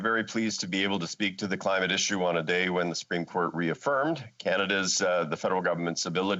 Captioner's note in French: voix de l'interprète